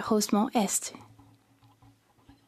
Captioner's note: speaking French